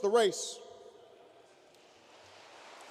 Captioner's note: applause